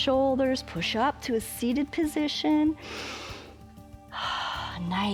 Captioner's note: inhales and exhales